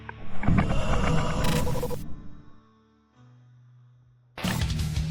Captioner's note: ghost screaming; Dark Entity laughing; screen crackling; upbeat music